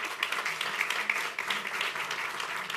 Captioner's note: applause